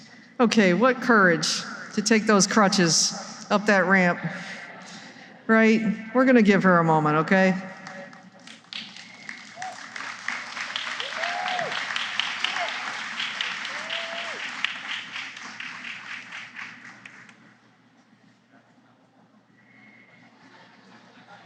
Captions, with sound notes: Okay. What courage to take those crutches up that ramp. Right? We are going to give her a moment, okay? [applause]